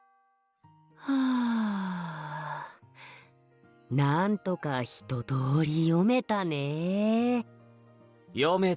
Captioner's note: sigh